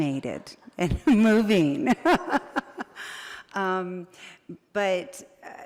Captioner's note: laughs